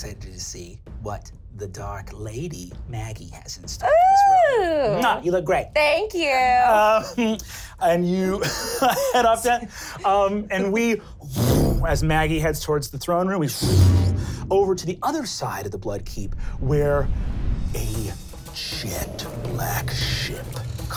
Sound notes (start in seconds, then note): 8.3 laughing; 11.5 powerful exhale; 14.1 powerful inhale